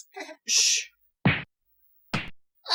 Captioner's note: smack